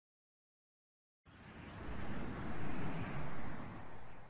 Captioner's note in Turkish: Rüzgar sesi